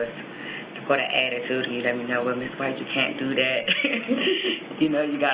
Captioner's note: laughs